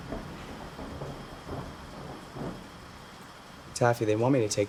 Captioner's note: thunder rumbling